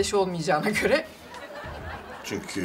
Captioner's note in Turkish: Gülme efekti